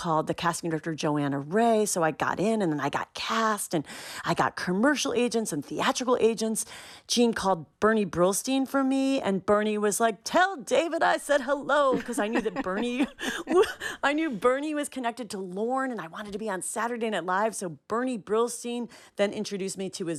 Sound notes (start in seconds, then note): 11.9 laughter